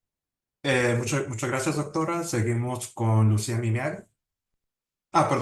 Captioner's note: speaking Spanish